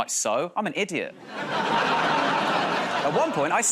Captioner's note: laughter